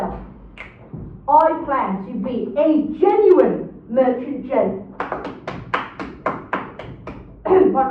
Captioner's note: claps